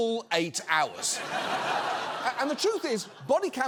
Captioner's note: audience laughs